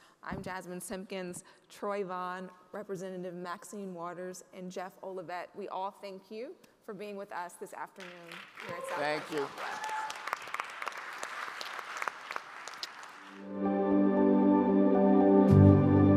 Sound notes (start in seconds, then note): 10.7 audience applauding; 13.4 outro music